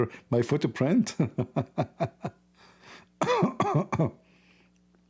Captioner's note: Ketawa